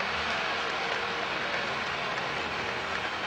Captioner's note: applauding